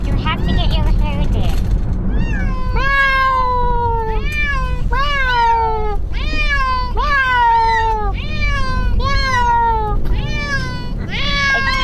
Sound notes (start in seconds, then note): 2.1 cats meowing; 2.8 meows